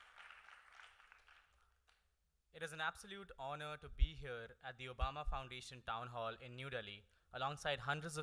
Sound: applause

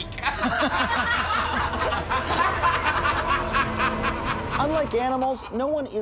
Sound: laughing

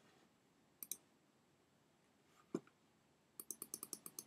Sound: keyboard clicking

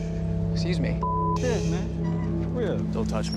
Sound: beeping

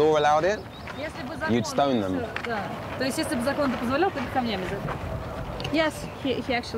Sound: speaking in foreign language

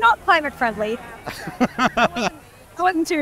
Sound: laughing

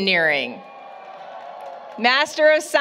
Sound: applause, Cheering

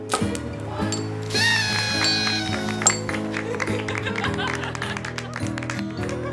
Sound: party horn, laughter, applause

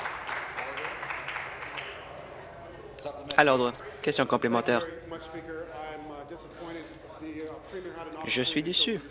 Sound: applause

